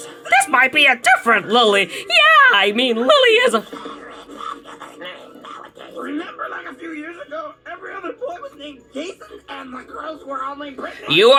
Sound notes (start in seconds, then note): 3.2 PANIC choking